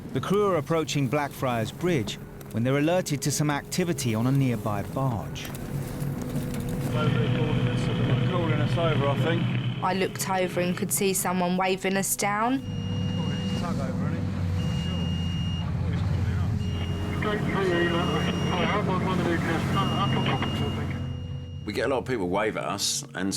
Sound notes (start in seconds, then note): 13.5 alarm sounding; 17.5 radio calling in